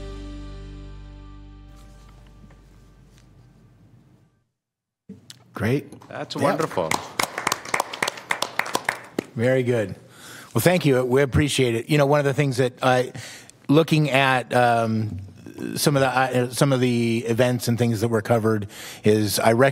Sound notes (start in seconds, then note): 9.6 applause